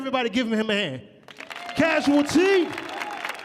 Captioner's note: audience cheering